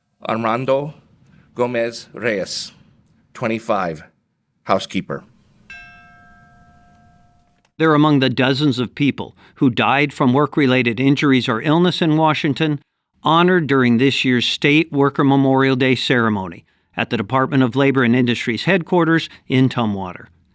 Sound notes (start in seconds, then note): 5.6 bell rings